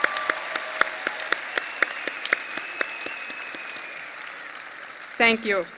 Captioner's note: audience applause and cheering